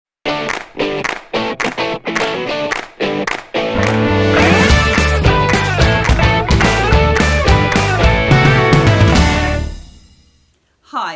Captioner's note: claps